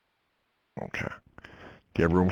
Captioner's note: voiceover